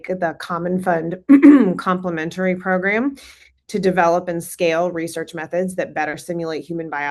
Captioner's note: clears throat